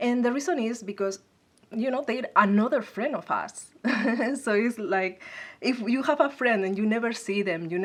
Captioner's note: laugh